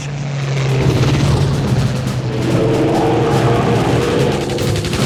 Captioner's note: aircraft engine roars